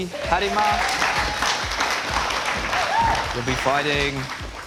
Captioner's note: clapping